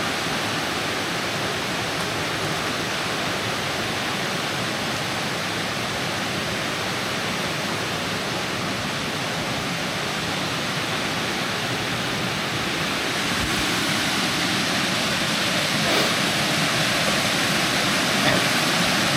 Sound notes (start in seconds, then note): 3.9 water splashing